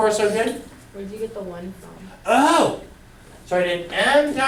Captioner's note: voiceover